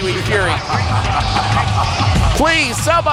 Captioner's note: man laughing manically